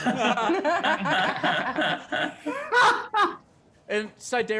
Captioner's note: group laughing